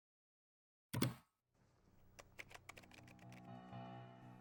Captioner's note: keyboard typing